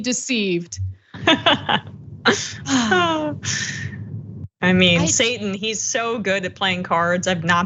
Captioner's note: laugh